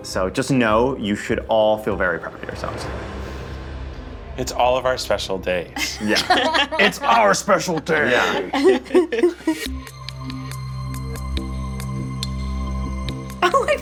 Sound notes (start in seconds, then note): 5.8 all laughing; 8.5 all giggling; 10.0 suspenseful music